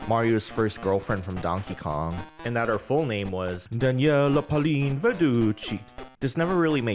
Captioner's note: italian chef voice